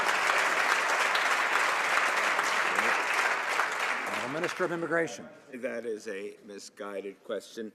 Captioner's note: some Applause